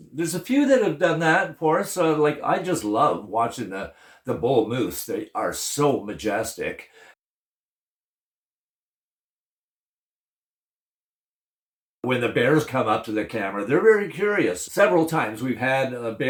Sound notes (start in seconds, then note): none